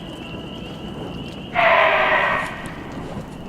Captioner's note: distant animal roar